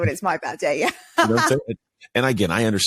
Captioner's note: laughs